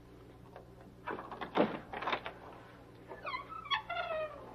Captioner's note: door rattling; door squeaking